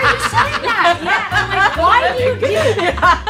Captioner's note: all laughing